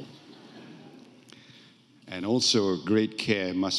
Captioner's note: audience laughing